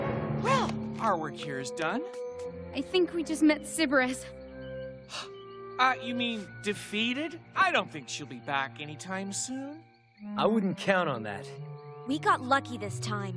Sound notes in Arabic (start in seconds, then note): 4.7 تهب